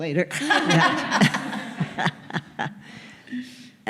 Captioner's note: laughter